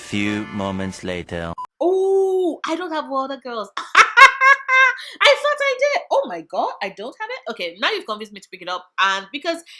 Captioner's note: laughing